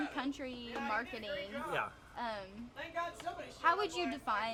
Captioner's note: background chatter